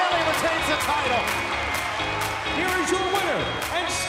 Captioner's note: bell ringing